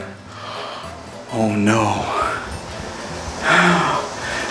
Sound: gasps

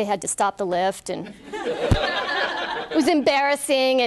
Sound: laughter

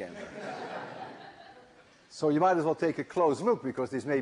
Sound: laughter

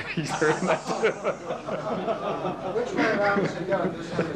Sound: laughter

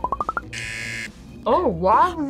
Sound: buzzer

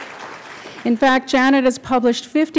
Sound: applause

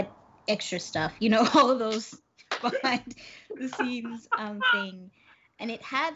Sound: Brennan laughing; laughs

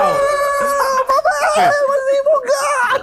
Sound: cheering

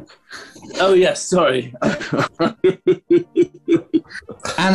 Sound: laughing

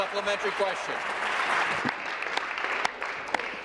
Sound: applause

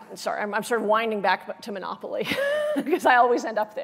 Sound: laughs

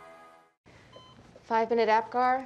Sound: beeping

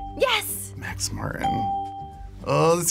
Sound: bell rings

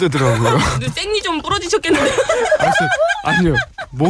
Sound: laughs

